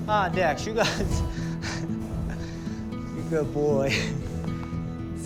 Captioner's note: chuckles warmly